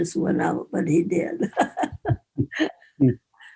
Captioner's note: laughs